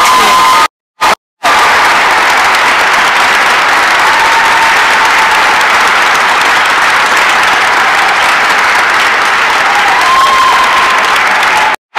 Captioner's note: applause and cheering